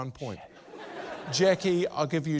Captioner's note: laughter